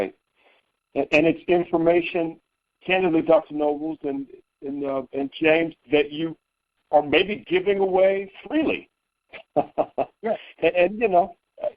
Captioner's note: chuckling